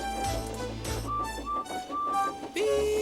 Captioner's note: toots